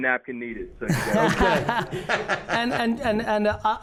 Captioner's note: Gary laughs